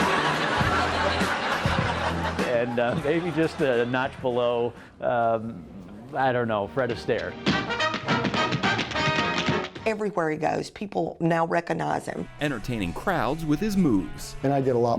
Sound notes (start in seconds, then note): 0.0 audience laughs; 7.4 tap shoes click